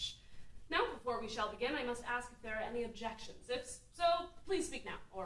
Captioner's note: none